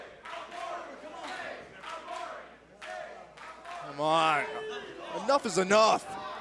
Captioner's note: fans chanting